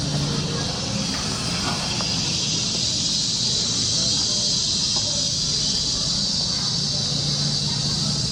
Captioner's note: Background: sound of birds. People in Palazzo Garden talking softly